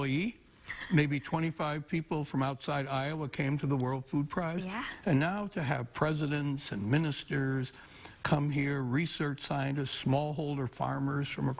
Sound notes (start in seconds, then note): 0.7 chuckling